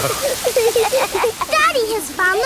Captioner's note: laughing